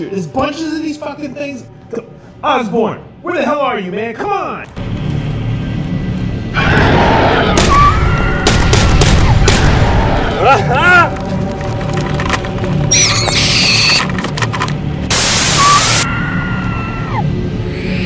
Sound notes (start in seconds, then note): 4.9 suspenseful music; 6.5 Goochers screeching; 7.5 gun banging; 10.4 Osborne yells; 12.8 Goochers screeching; 15.0 static crackling